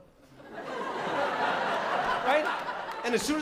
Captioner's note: laughter